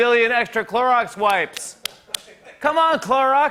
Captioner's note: striking palm